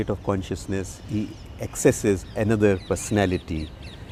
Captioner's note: birds chirpping